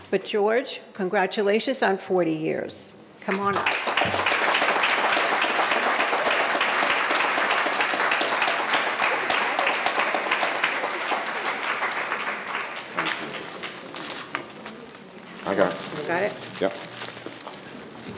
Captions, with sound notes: But George, congratulations on 40 years. Come on up. (audience applauding) Thank you. - I got it. - You got it? - Yeah.